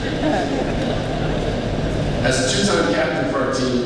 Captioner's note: laughing